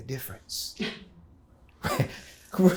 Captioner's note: chuckling